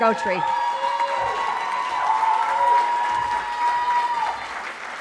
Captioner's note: cheering